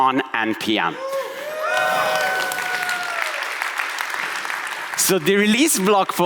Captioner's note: audience cheering and applauding